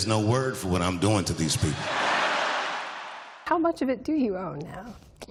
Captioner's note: laughter